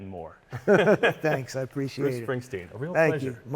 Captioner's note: laughter